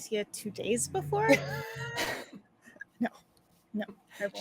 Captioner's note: laughing